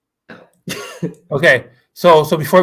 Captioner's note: laughs